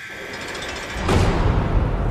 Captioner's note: alarm buzzing